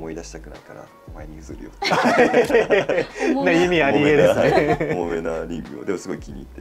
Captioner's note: laughs